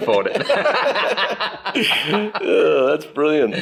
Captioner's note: everyone laughing